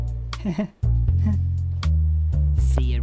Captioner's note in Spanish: Risa nerviosa